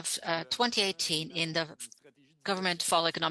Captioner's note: speaking French